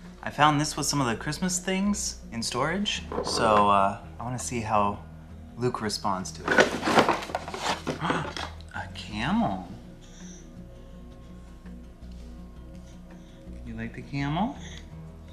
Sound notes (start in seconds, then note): 6.4 objects hitting; 10.0 gasping; 10.2 gentle instrumental music